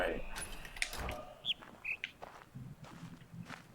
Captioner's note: bird chirps high-low